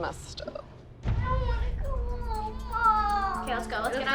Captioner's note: crying